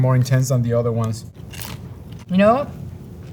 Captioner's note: mouths crunching